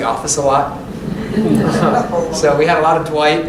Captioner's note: laughter